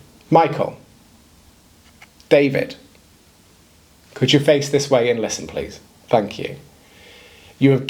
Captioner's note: pause